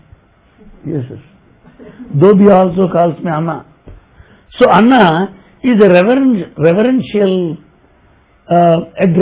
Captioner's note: laughter